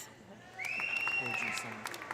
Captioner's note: audience applauding; audience cheering